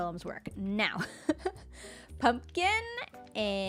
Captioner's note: laughs